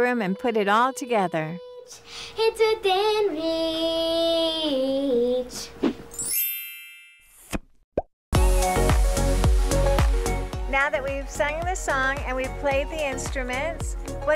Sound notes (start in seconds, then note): 6.1 chiming; 8.3 upbeat music